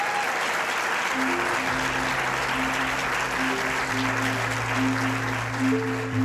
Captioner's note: applause